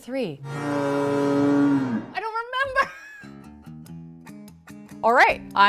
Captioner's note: laughs